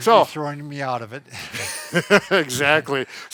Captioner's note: chuckles